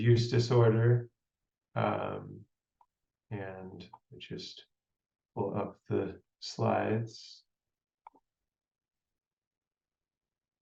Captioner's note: pause